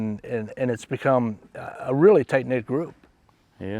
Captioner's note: none